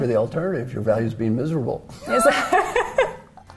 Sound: laugh

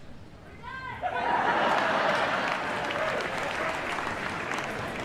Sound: crowd laughs

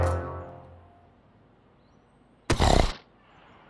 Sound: cow snorts

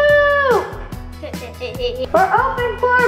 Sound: laughing

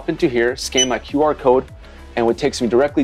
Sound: scanner beeps

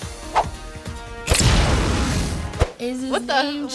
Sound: adventure music; flames burst

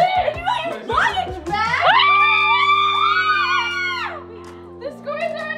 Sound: group screaming

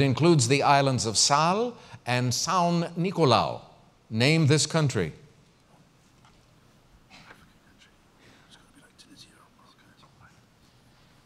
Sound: pause

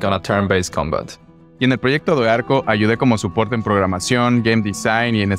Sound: in Spanish

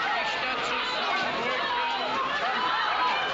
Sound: loud yelling

